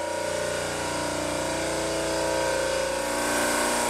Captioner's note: loud machine noises